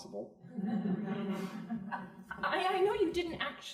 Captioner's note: crowd laughing